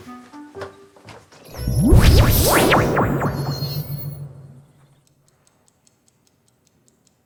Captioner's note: transdimensional teleporting sound